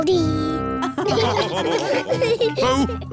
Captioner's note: all laughing